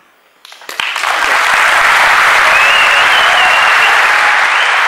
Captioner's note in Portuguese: Aplausos